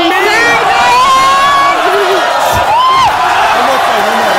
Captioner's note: audience yelling